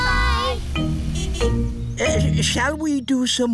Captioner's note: horn honks